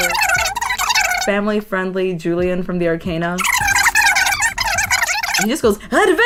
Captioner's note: fast-forwarded talking; more fast-forwarded talking